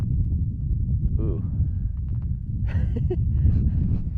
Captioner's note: chuckles